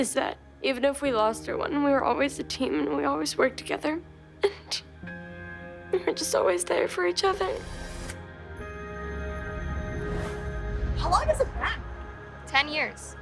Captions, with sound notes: even if we lost, we were always a team, and we always worked together. [crying] And we were just always there for each other. Ten years.